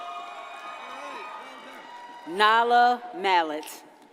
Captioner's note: audience cheers and applauds